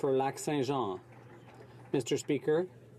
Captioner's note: some Applause